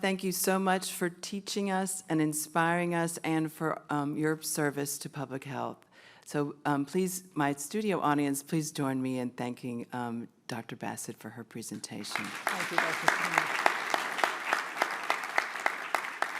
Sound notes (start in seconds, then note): 12.0 applause